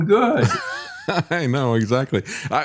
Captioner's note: laughing